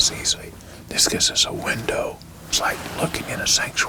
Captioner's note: whispering